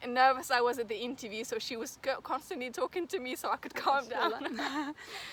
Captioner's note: risos